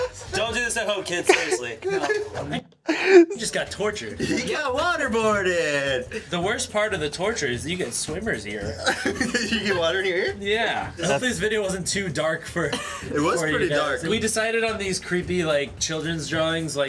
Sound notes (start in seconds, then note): 8.6 laughing